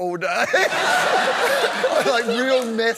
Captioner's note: laughter